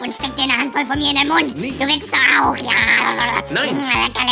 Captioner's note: mouth noises